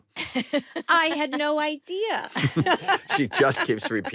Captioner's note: laughs